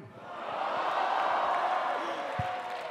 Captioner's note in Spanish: Aplausos